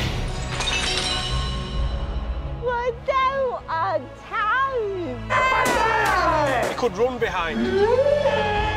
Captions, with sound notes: We don't have time. [SCREAMING] You could run behind.